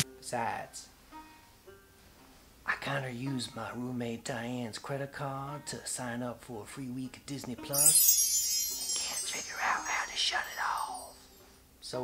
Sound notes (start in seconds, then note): 7.7 high chiming; 9.0 whispering